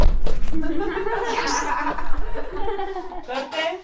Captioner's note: all the team laughs